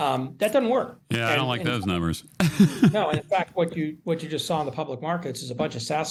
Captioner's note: laughs